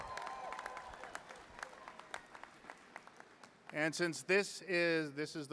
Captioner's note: applause